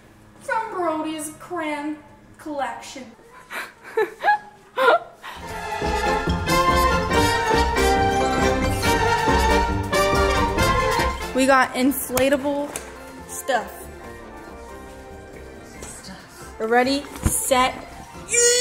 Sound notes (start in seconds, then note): 3.3 laughs; 5.7 fun amusing music